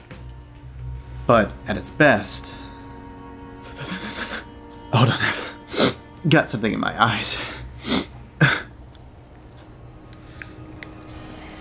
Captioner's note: sniffles